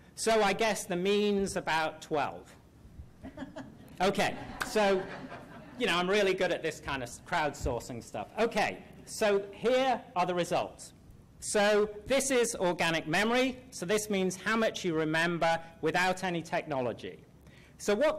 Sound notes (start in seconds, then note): 3.2 laughter